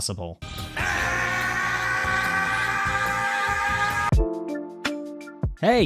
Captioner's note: goku noises